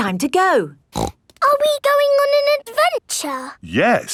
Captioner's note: snorts